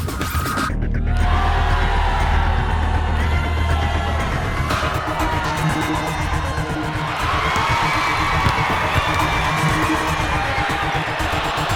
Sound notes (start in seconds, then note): 1.7 booing; 8.8 crowd cheering